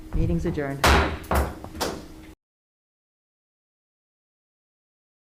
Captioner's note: gavel banging on table